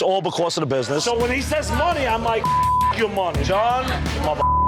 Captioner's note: beep